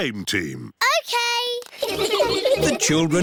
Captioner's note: all giggling